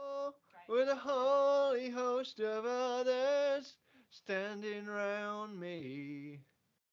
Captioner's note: noisy breath